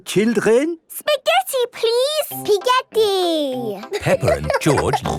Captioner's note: laughing